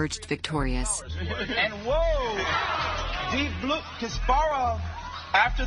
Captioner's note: soundbite of archived recording